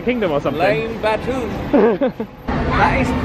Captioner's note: laughs